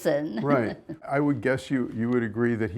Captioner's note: chuckles